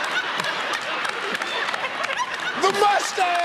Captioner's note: laughter